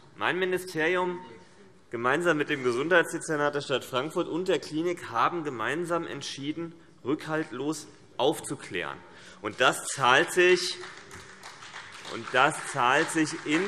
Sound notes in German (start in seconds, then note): 6.9 Beifall BÜNDNIS 90/DIE GRÜNEN und vereinzelt CDU